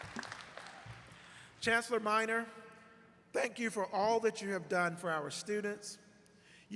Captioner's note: applause